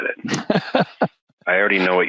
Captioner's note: laughing